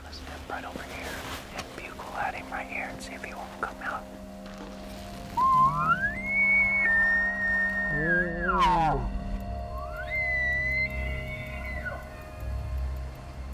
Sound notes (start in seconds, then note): 5.3 cow calling; 7.6 elk chuckling; 10.9 cow calling